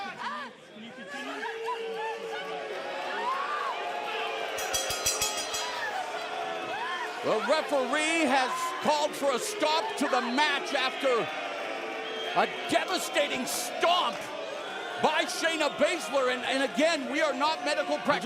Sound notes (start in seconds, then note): 5.5 crowd chatter; 6.4 bell ringing